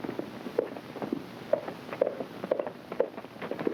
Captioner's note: hooves clopping